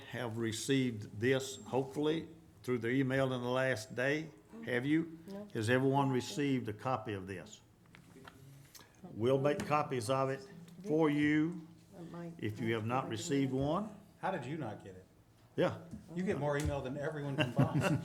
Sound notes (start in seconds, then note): 8.3 group murmuring; 17.3 group chuckling